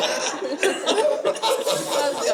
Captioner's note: audience laughing